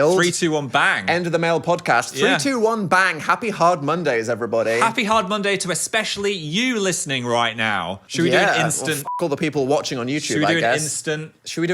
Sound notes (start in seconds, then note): 8.6 beep